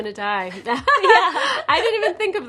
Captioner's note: both chuckling